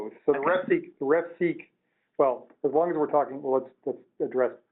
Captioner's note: voiceover